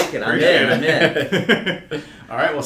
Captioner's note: all laugh